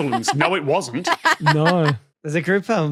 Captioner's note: laughs heartily